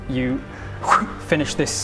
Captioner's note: whhh!